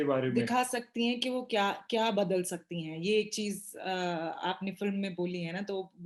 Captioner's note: speaks foreign language